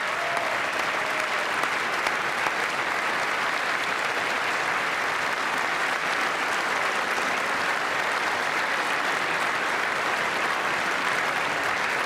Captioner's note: applause